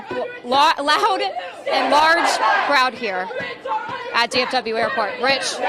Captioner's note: crowd chanting